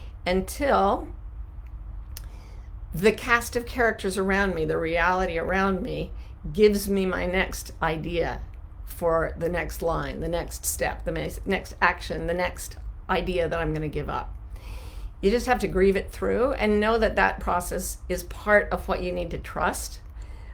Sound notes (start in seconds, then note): none